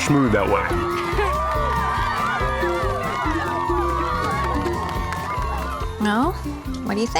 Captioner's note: cheering